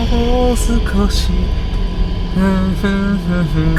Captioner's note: humming